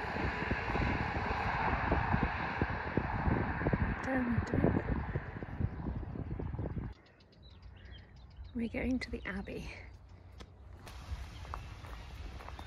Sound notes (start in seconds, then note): 7.2 sounds of traffic